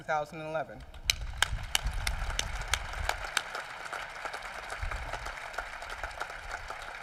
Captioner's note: applause